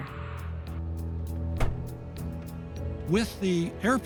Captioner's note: plane door shuts